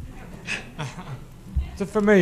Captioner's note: laughter